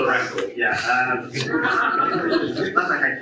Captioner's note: audience laughs